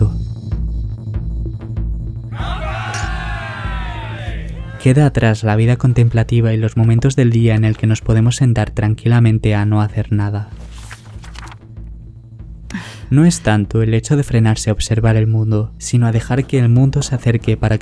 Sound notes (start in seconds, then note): 2.3 toasts and laughter